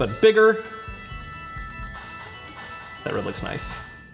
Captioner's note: dinging